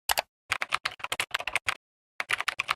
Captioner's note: typing